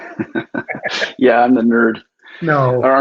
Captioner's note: chuckling